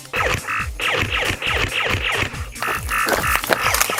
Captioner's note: Nerf blasters firing